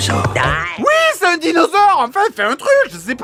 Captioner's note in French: hystérique